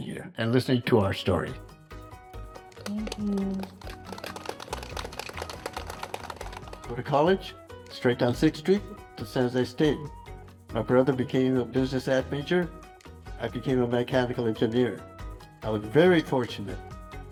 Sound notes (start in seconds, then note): 1.6 upbeat music; 2.7 crowd applauding